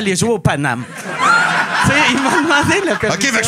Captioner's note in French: rires